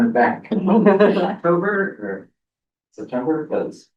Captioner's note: laughter